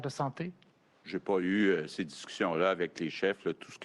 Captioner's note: speaks French